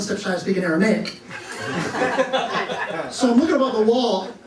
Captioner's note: laughter